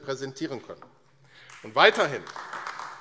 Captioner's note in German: Beifall AfD